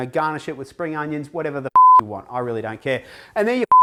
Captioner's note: beep; beep